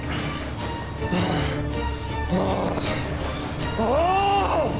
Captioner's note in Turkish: Nefes sesi; Bağırma sesi